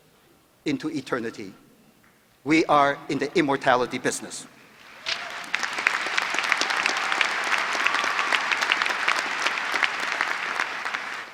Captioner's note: applause